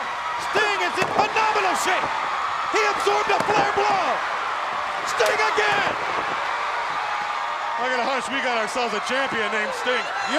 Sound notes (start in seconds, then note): 6.1 chop striking